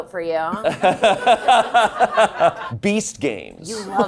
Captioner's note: all laughing